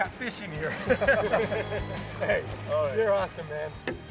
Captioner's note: laughter